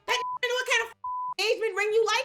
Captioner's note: beep